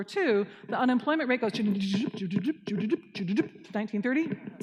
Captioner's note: imitates rising and falling